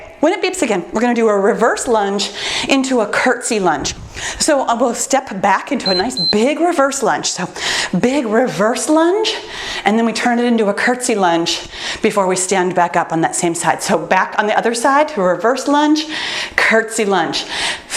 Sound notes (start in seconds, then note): 5.8 timer beeps